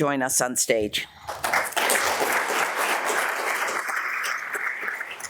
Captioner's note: audience applauds